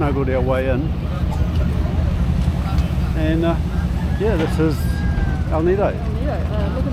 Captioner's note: rooster crows